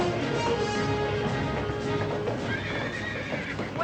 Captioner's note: whinnying